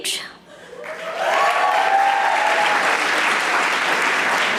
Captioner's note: audience applauding